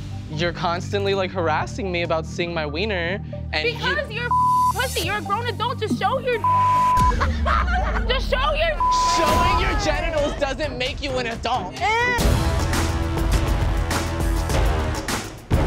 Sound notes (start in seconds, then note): 7.0 all laugh; 11.9 groans; 12.7 dramatic music